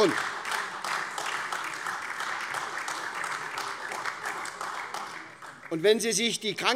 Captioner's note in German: Beifall SPD und vereinzelt AfD